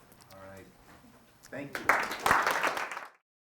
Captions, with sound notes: - All right, thank you. (clapping)